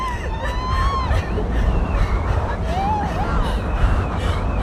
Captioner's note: sobbing; wind howling